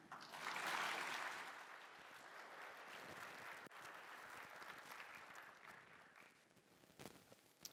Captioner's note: applause